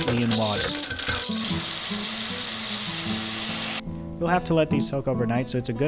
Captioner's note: water Running